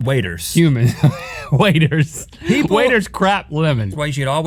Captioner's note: laughing